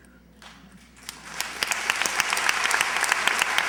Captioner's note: applause